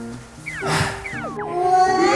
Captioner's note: sighing